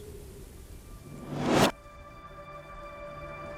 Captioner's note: woosh